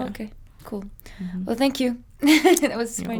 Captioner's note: laughing